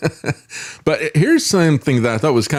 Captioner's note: laughs